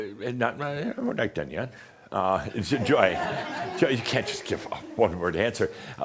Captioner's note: some chuckles